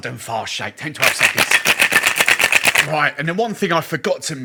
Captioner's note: cocktail shaker rattles